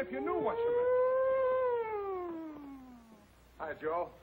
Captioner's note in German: macht sirenenlärm